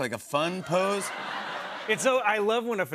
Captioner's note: laughter